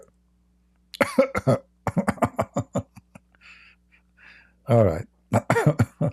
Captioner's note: Ketawa